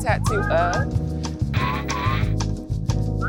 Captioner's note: television static